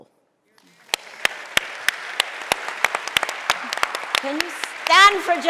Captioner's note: audience applauding